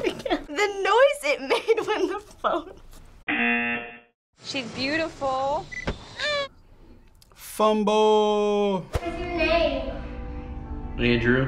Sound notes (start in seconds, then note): 5.9 baby cries